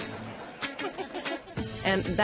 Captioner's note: chuckles